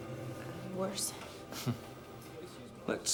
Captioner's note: chuckles